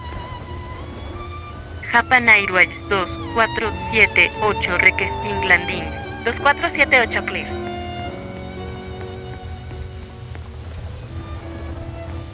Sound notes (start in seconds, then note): 2.0 Spanish